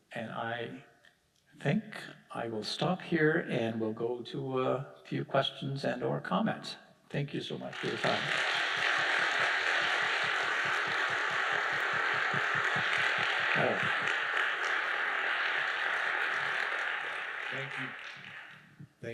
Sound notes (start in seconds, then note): 8.7 audience applauding